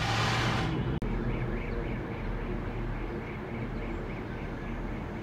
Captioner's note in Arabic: ضوضاء المدينة المحيطة